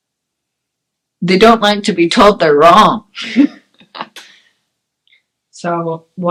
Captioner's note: laughs